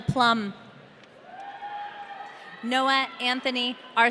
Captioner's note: audience cheering